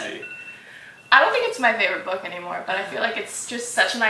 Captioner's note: scandalous gasp